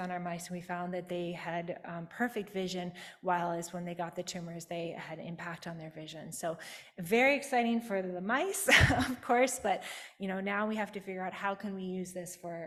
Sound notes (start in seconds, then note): 8.7 chuckles